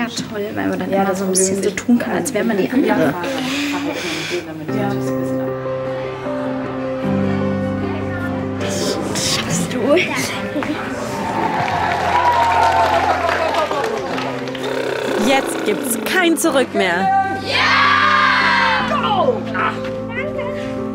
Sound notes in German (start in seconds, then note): 4.4 Langsame Musik; 11.0 Applaus, Jubel